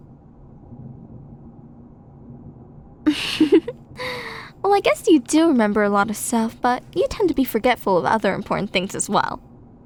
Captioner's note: giggle